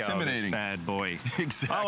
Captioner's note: laughter